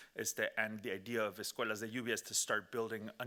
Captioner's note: speaking Spanish